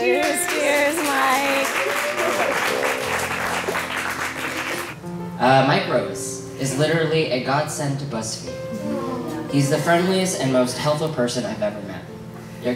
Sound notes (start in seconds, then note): 1.9 crowd cheering and clapping